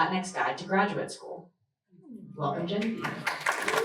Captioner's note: applause